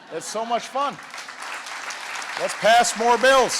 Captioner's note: laughter and applause